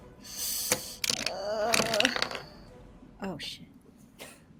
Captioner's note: dice rattling; Robin groaning